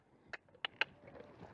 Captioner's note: cluck